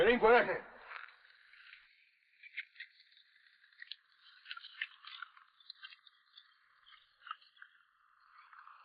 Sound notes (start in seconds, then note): 4.8 horse hooves pattering